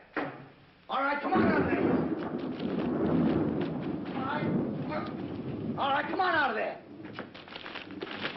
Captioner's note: thunder